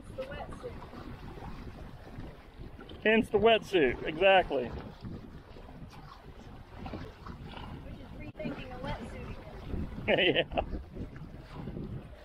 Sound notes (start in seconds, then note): 10.0 laughing